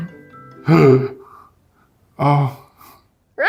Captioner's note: gasp